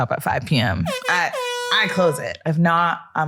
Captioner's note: horn blaring